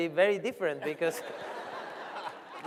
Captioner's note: laughter